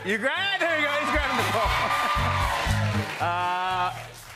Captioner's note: cheers and applause